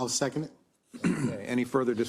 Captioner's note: cough